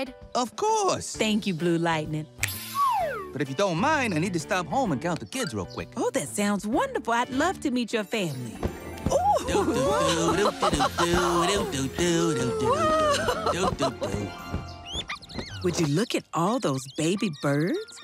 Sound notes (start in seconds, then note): 8.9 Blue Lightning humming; 9.1 Lenny and Ms. Tab exclaiming